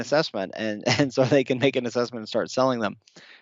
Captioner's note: laughing